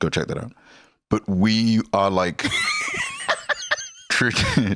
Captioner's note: laughs